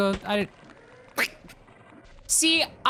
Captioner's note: snickers and it kinda sounds like a duck quack